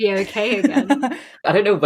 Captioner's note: laughs